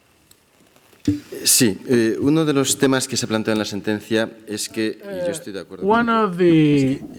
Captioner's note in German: spanisch